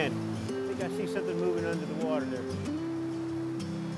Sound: fishermen talking; acoustic guitar music

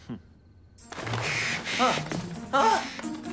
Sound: Rikki whimpers; tiger growls

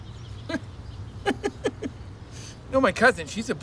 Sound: Nick laughs

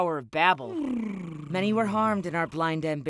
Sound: Fuzzypants purrs

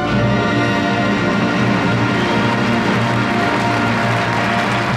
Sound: audience applauds

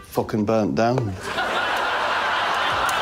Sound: laughter

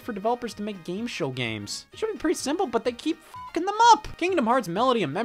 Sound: beep

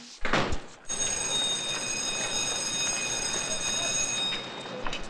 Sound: school bell ringing

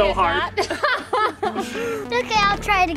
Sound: laughing

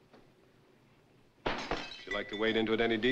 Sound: glass shattering

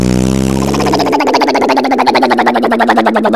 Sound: motor sound

